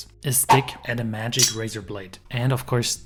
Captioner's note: stick whooshing; metal clanking